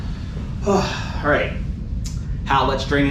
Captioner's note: sighing